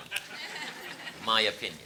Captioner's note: audience laughing